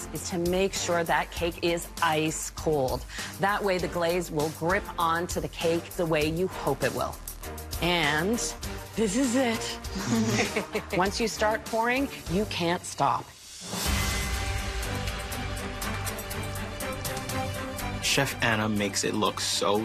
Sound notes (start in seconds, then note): 10.0 chuckle softly